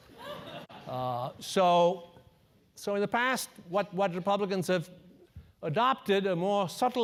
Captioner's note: laugh